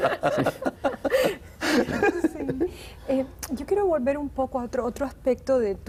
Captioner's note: ríen